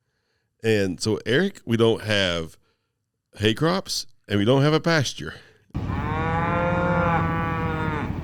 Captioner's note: cows mooing